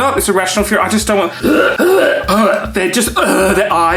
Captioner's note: gags